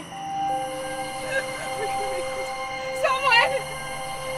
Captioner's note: Kathryn sobs